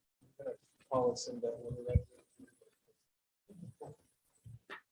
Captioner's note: male speaks softly